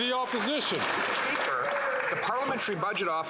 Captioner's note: some Applause